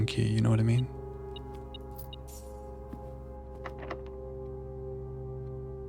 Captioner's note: beeping